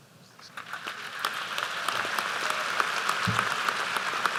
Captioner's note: applause